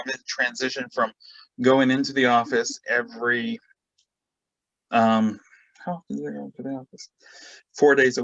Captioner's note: mutters